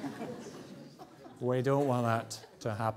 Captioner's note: audience laughs